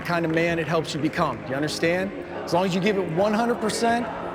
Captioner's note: audience chanting "Rico"